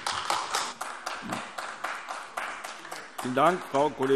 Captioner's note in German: Beifall AfD